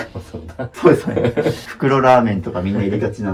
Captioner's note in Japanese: 笑い